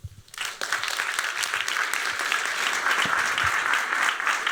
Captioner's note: applause